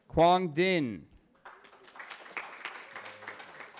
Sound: cheering

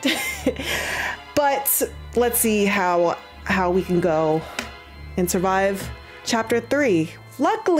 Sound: laugh

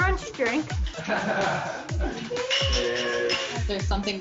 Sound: laughing

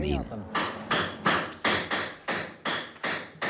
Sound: metal knocking

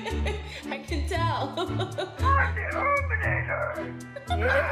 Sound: laughter

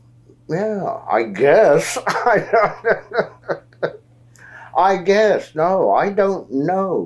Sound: laughs

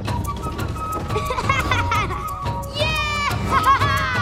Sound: laughing

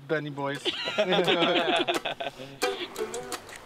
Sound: laughter

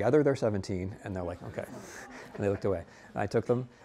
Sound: students laughing

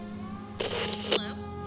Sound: radio static

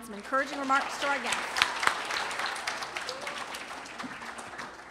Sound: applause

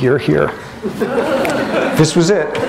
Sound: laughter

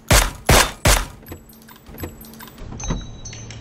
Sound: click!

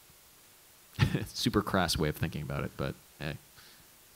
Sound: laughs

